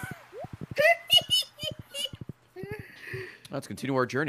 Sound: giggling

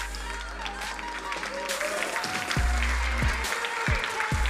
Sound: crowd cheering and applauding

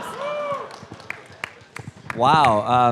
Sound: cheering and applause

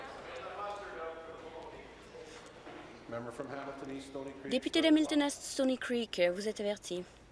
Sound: conversation din

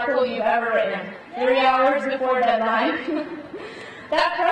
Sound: laughs

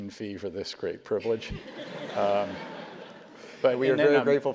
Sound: laugh

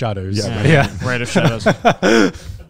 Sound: everyone laughs

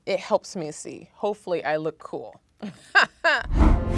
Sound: chuckles

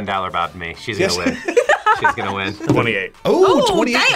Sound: both laugh

